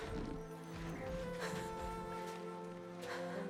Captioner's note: laugh